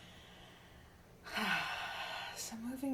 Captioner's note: sighing